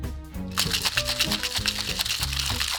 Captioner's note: ice shaking